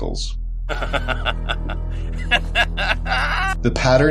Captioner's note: maniacal Laughter